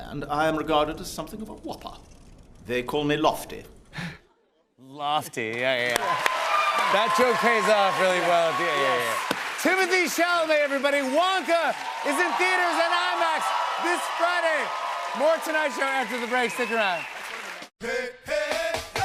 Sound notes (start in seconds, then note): 4.0 chuckles